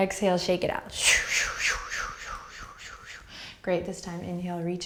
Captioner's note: exhaling breaths